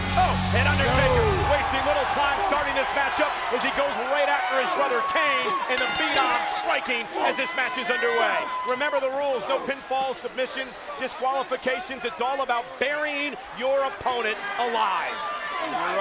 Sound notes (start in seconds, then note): 5.7 bell dings